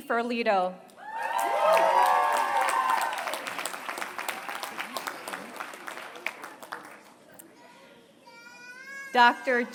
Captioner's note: applause